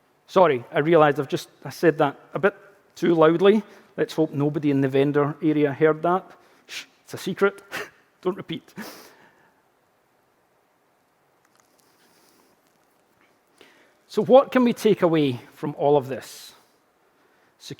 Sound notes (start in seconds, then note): 7.7 chuckling